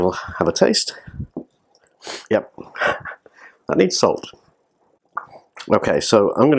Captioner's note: laughs